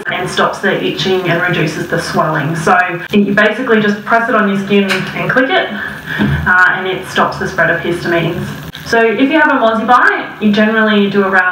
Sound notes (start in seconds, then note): 4.8 clicks